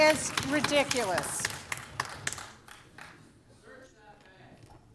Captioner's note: applause